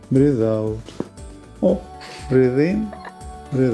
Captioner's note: crunches of bones